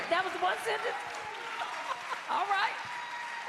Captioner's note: cheers and applause